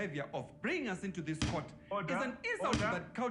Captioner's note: gavel bangs